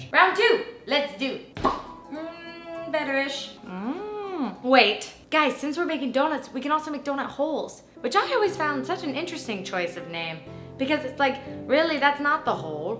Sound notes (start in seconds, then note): 1.6 pop; 3.6 hmm